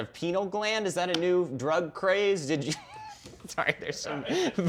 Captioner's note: laughs